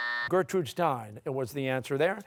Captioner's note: timer sounding